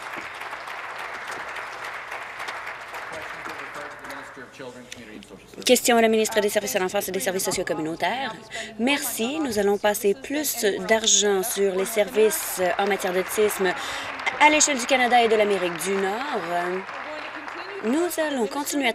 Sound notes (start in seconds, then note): 0.0 applause; 17.4 applause